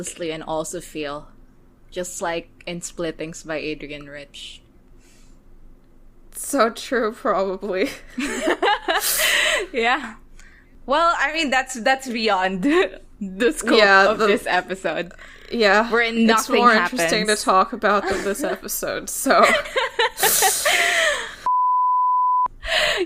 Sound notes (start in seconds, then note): 8.0 laughs; 19.4 laughs